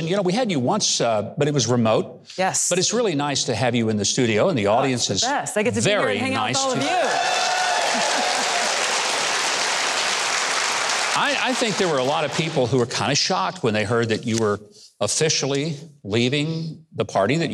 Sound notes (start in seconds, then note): 6.6 audience claps and cheers